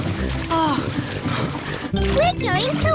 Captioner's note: groans